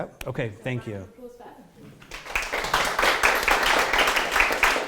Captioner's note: applause